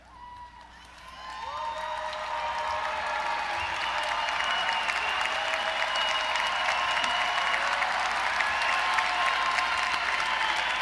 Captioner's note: cheering & Applause